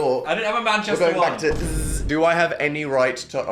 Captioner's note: buzzes